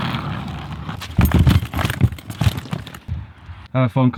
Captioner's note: laughs